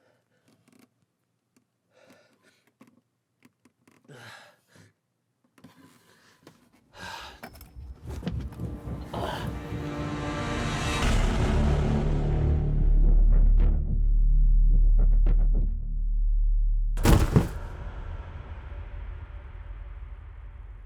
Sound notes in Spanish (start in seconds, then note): 7.4 Jonathan exhala; 8.1 música dramática; 17.7 la música dramática continúa